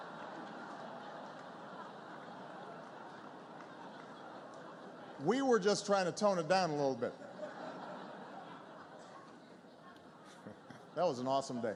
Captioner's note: laughter